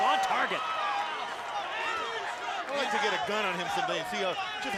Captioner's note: applause